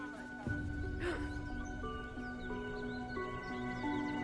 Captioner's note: Louise gasps